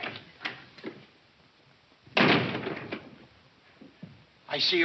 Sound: door thuds

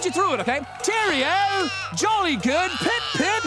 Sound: British accent

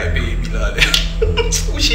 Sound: chuckles

